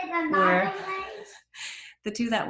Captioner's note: laughs softly